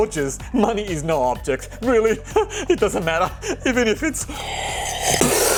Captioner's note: sipping